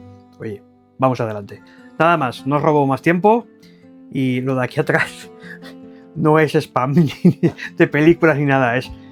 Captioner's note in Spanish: risas